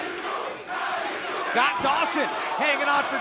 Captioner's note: fans chanting